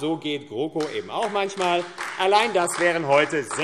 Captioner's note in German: Beifall AfD